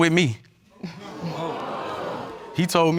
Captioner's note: audience gasping